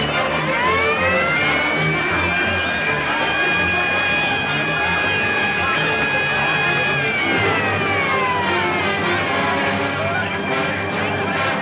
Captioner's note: siren wails; commotion; dramatic music